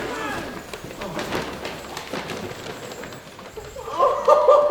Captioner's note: bells jingling; group laughing